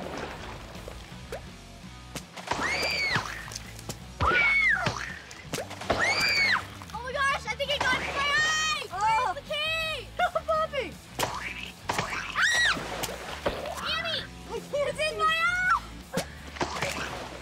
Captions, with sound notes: [screaming] Oh my gosh, I think I got it in my eye! Where's the key? It's not popping. [screaming] Annie, it's in my eye!